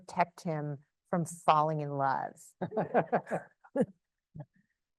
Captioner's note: laughs